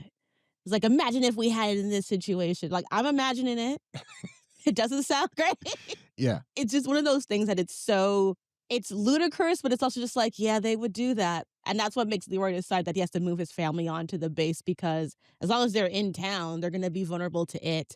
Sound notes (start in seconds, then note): 3.9 laughs